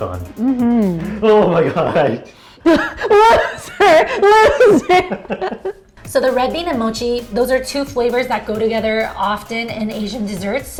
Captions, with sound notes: - Mm-hmm. - Oh my God! - (laughs) Loser, loser! So the red bean and mochi, those are two flavors that go together often in Asian desserts,